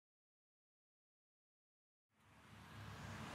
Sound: traffic

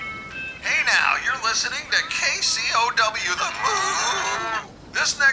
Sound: radio DJ

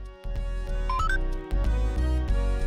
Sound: game noise

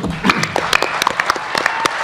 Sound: applause

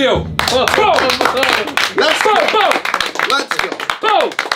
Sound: tense music; all clapping and cheering

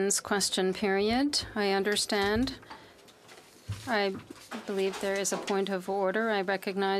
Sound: speaking French

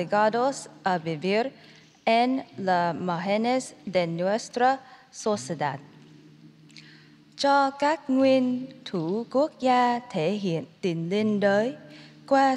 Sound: speaking in spanish

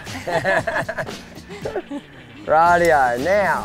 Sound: laughing

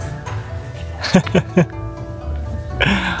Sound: laughs

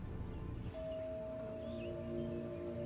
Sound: bell dings; indistinct chatter

